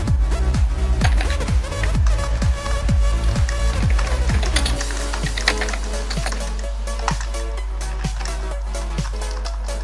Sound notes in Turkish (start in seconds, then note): 1.0 klavye sesi